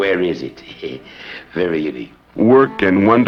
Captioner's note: chuckles